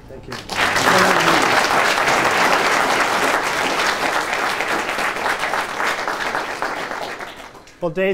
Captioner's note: applause